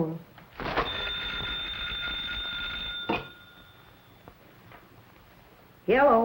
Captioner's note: phone rings